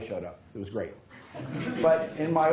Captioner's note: laughter